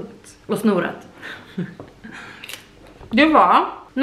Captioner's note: laughter